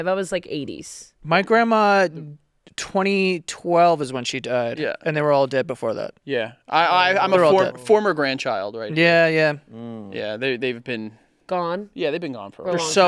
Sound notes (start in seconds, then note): none